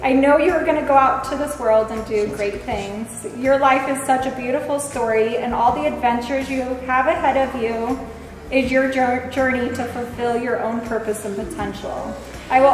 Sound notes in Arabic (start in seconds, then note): none